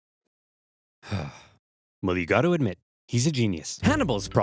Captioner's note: sighs